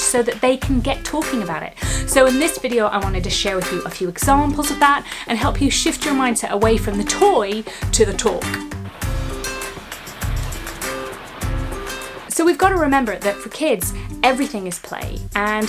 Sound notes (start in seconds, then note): 8.8 gentle music; 8.8 ocean rustling